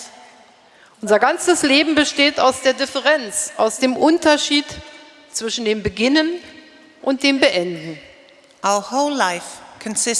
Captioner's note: speaking in German